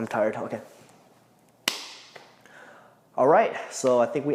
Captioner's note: claps